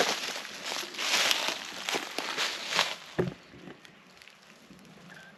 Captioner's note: boots crunching